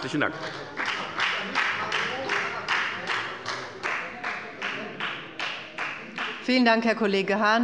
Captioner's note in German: Beifall bei der FDP